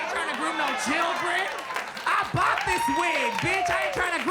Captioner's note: audience laughs and claps